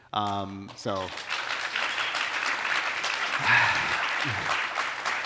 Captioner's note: audience applauding